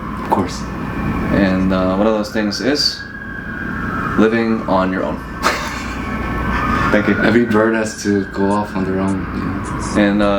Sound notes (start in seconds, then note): 5.3 laughing